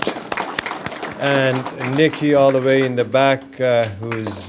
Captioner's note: applause